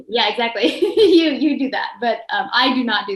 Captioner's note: chuckles